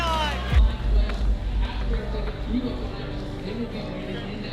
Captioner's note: clapping